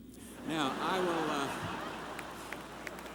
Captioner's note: laughter